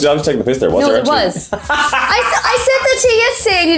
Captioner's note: laughs